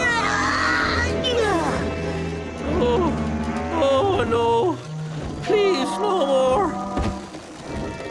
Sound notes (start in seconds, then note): 3.4 moaning